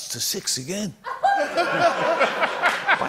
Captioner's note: laughter